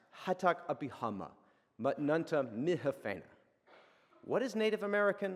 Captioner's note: speaks in a foreign language